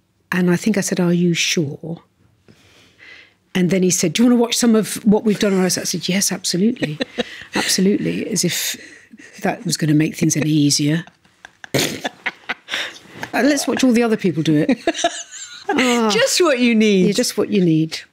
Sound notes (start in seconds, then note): 6.5 laughs; 10.2 both laughing